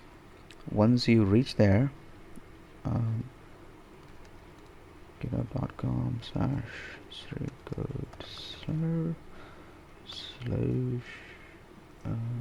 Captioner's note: typing